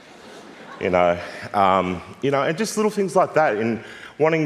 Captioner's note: laughter